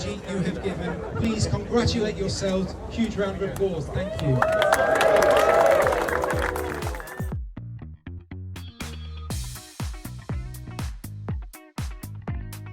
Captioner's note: cheering and applause